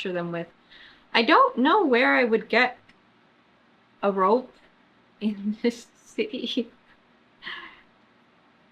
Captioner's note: sighs